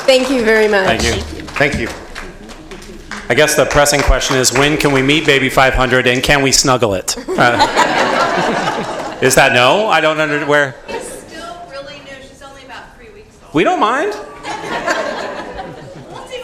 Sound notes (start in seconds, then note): 0.0 applause